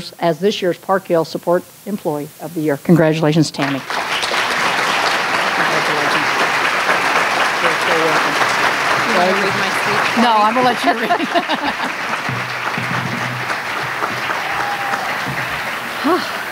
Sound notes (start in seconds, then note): 3.8 applause; 14.1 laughter